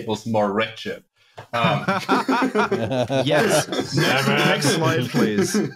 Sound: laughter

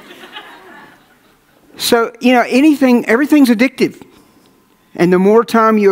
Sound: audience laughs

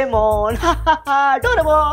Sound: laughing

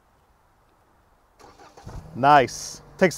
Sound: engine starting

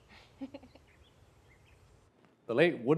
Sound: Nova laughs

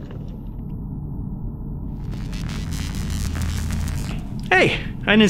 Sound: sci-fi sound effects

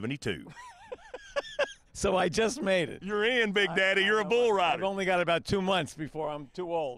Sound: laughs

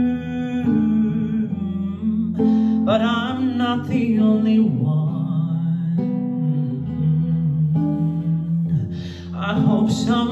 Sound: mmm

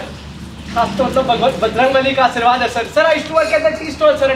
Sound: speaking Foreign Language

